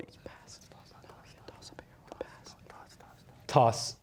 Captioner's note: whispering